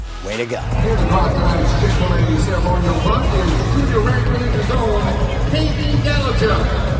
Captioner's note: speaking off mic